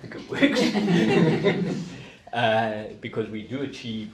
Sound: group laughing

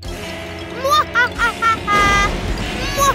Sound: laughing

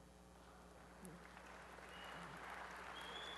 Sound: applause

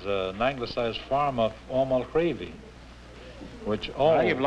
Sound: speaking gaelic

